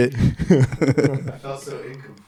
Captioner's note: laughing